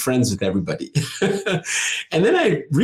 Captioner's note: laughing